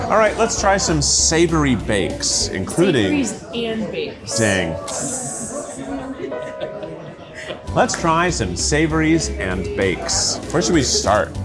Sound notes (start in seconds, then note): 4.3 gentle melancholic music; 5.4 people chatter and chuckle